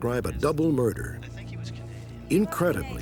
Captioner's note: on phone